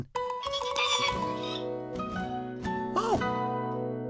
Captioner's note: squeaking